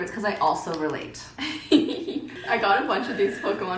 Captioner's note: giggles